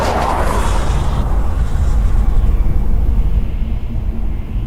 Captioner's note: wind blowing